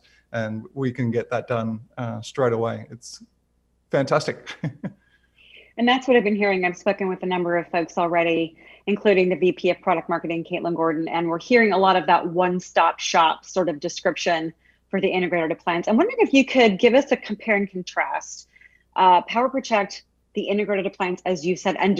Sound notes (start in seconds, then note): 4.0 laughs